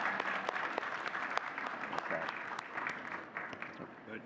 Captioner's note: audience cheering and clapping